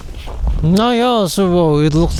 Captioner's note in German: schnauben